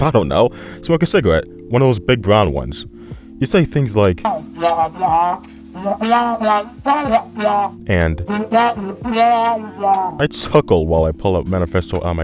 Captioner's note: speech